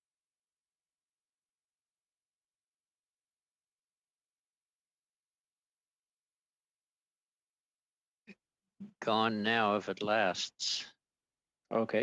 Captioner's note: silence